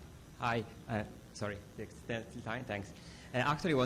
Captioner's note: voiceover